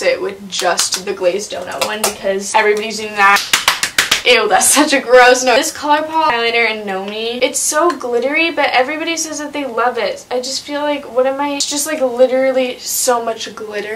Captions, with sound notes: with just the "Glazed Donut" one. Because everybody's using that. [clapping] Eww. That's such a gross noise. This ColourPop Highlighter in "Gnomie." It's so glittery, but everybody says that they love it. I just feel like . . . What am I . . . It's just literally so much glitter.